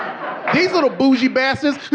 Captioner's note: audience laughing